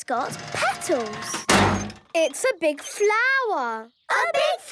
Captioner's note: crane beeping